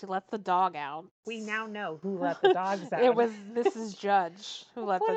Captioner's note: laughs